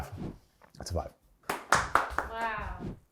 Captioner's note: air whooshes; crew claps; air whooshes